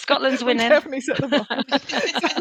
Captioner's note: laughter